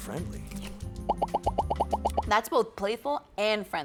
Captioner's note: popping